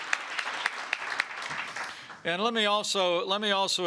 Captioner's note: applause